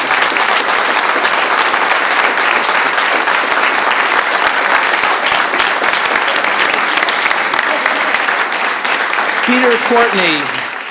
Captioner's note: applause